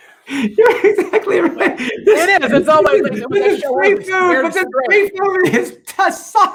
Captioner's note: murmurs